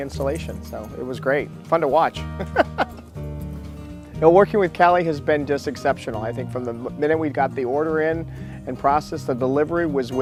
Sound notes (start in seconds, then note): 2.0 laughs